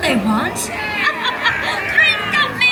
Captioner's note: laughs